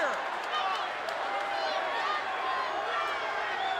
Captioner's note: crowd chattering